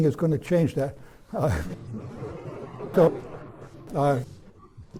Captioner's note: laughter